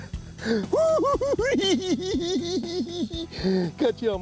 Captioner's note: cackling